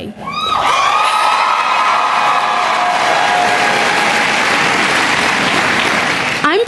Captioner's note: cheering and Applause